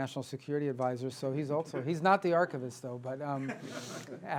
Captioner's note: laughter